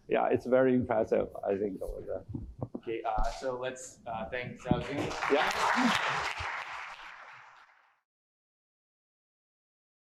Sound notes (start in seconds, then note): 4.7 applause